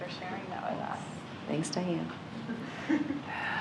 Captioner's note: laughter